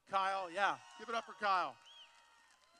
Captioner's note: applause